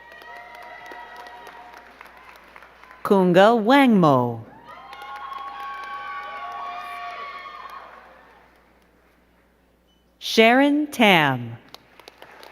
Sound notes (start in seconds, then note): 0.0 crowd cheering and clapping; 4.5 crowd cheering and clapping